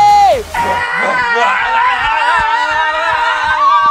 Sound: all cheering

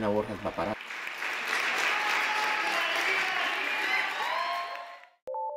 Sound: aplausos

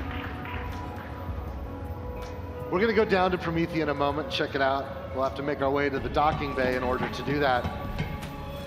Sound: applause

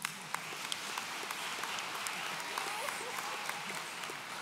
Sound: audience applauds

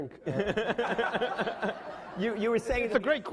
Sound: laughing

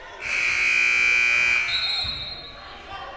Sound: loud buzzer blaring; whistle blowing

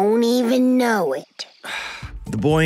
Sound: exhales

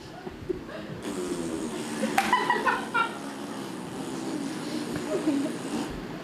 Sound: honey bottle farting noise

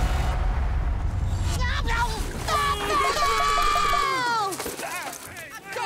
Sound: screaming

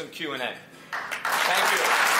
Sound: applause

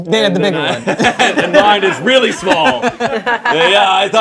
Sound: group laughing

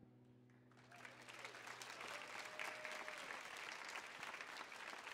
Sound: audience applauding

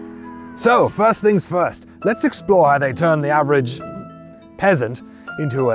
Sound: knightly voice

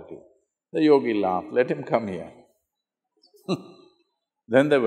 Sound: laughs

